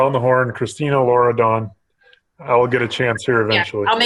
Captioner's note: chuckling